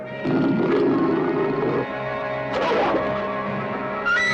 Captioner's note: dog growling